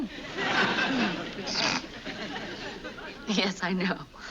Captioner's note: laughs